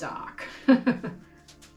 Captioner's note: laughing